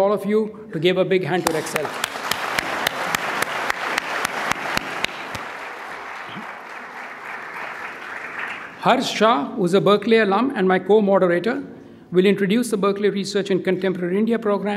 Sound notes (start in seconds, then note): 3.5 audience applauding